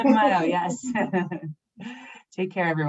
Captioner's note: chuckles